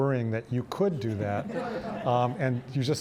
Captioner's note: audience laughing